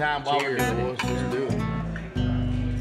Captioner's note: glasses clinking